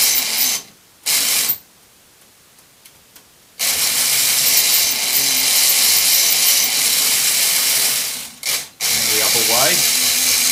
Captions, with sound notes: [Motor straining] And then the other way.